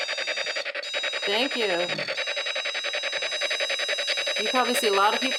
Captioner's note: machine beeps